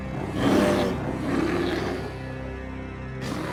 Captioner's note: growling